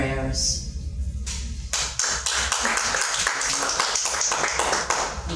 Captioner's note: audience clapping